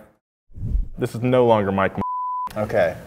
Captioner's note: beep